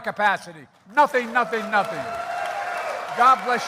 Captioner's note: applause